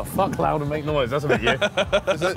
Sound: laughing

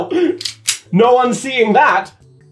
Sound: gun clicks

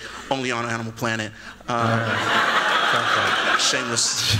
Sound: laughter

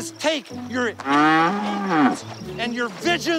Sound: cow mooing

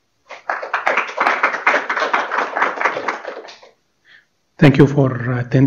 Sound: applause

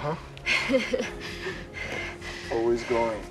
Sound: chuckles

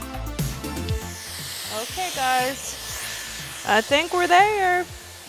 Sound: upbeat music; blow dryer humming

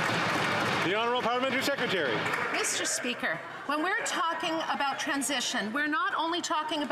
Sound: applause

